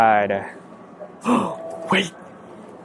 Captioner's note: gasps